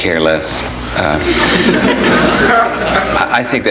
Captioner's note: audience laughs